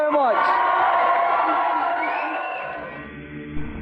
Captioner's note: audience applause and whooping